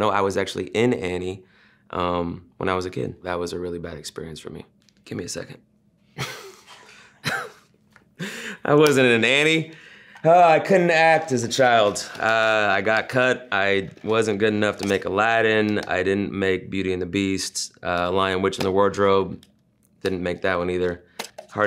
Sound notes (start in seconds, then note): 6.2 laughs softly